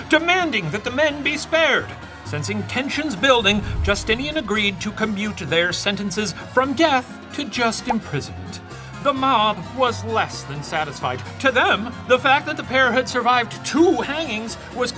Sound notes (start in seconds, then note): none